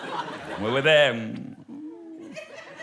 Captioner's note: kisses